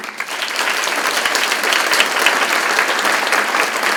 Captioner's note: crowd claps